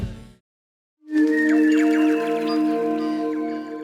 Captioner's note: birdsong